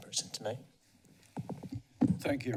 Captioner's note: mic sounds